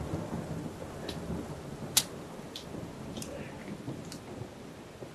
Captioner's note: rain trickling in distance